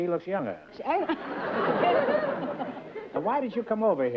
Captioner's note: laughter